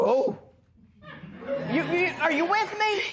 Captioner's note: laughter